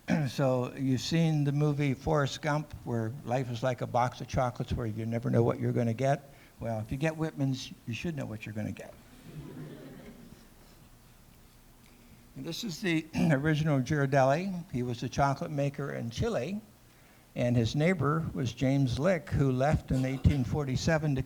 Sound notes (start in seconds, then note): 9.2 laughter